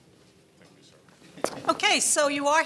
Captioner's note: laughs